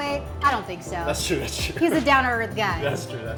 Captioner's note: chuckles